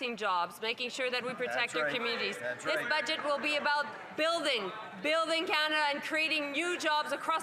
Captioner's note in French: voix de l'interprète